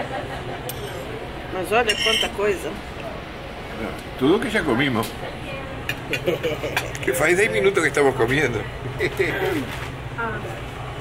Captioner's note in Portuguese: risos